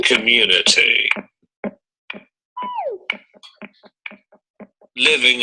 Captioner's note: electronic noises